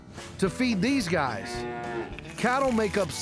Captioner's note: cows mooing